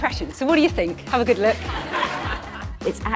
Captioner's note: audience laughing